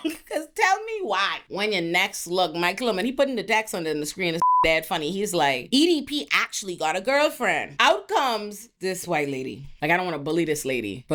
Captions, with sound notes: Cause tell me why. When your next look, Mike Bloom, and he putting the text on the screen, it's (beep) he's like, "EDP actually got a girlfriend." Out comes this white lady. Like I don't want to bully this lady,